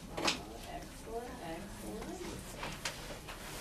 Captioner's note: voiceover